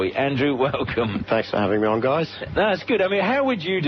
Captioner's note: gentle laughter